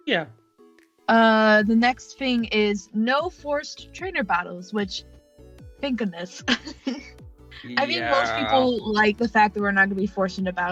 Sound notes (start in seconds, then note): 7.6 laughs